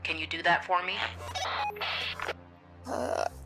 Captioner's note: radio bleep